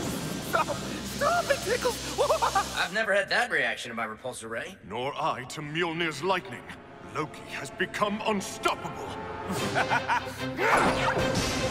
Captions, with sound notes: Stop! Stop, it tickles! I've never had that reaction to my Repulsor Ray. Nor I to Mjolnir's lightning. Loki has become unstoppable. [EVIL LAUGHTER]